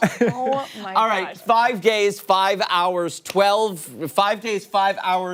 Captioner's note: laughter